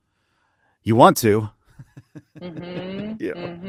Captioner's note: laughs